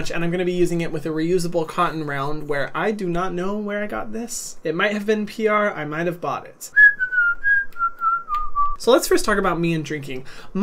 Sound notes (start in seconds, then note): 6.7 whistling